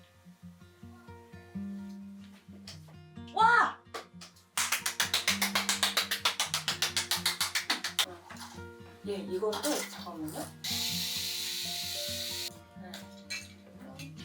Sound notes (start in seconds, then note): 4.6 automatic seal clap